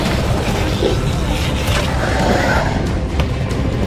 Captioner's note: alien growling